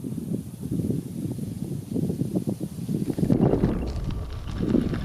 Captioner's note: bugs buzzing